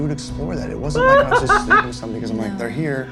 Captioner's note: laughs